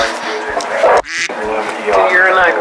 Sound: duck quacking

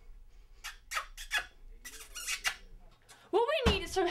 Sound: kissing

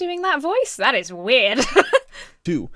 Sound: laughs

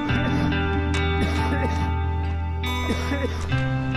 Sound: coughing

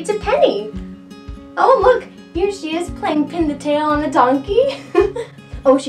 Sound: chuckles

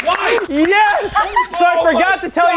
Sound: laughing

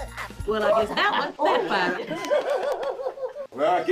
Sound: laughing

